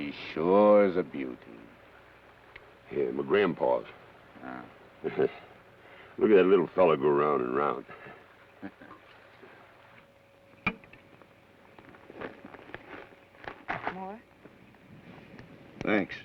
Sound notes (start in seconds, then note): 5.0 Carney chuckles; 8.6 Joshua chuckles